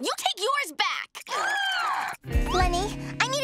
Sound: growling

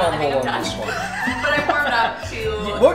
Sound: laughter

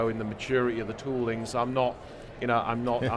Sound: group chuckles

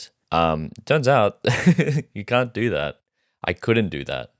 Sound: chuckles

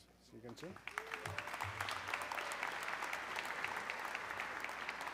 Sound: audience clapping

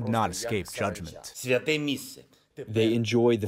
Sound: through translator

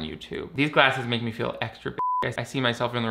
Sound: beep

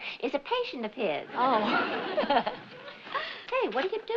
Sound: laughs

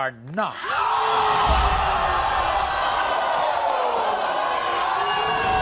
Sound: audience gasps; audience boos

